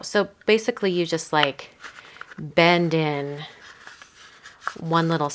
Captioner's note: paper crinkling